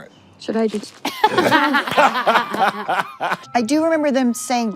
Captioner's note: everyone laughs